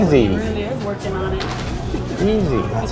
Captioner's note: chuckles